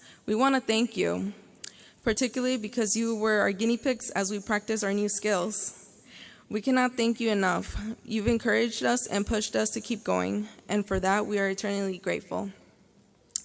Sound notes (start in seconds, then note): none